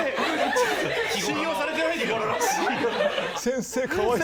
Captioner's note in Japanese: 笑い